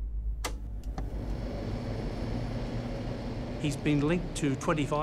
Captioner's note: projector whirrs